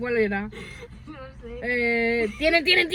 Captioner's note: laughter